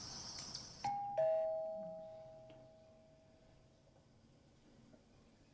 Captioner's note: doorbell ringing